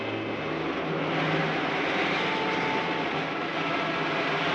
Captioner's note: rocket whirring